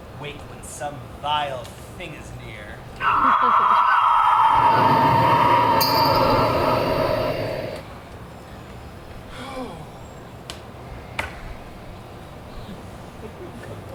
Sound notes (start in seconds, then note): 2.9 wind blowing ominously; 9.3 Lysander sighs